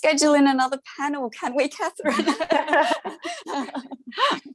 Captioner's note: laughter